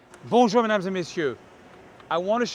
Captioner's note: speaking in French